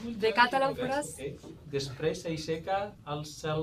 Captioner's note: speaking Catalan